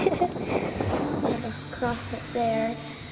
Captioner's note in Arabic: يضحك